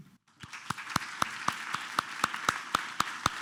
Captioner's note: applause